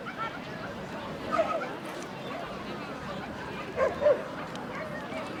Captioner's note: crowd bustling; dog barking